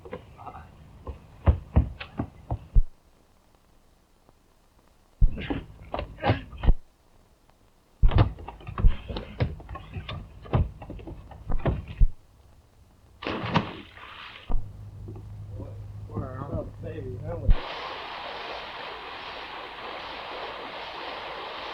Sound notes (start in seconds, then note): 0.1 Percy wheezing; 5.2 blows thudding; 5.6 men grunting; 14.6 people chattering; 18.3 water splashing